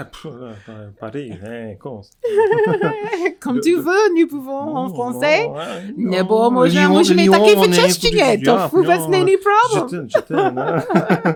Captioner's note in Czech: mluví Francouzky